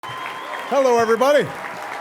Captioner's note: audience applauding and cheering